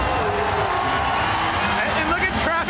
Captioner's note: crowd cheers